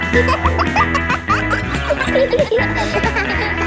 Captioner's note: pop music playing; kids laughing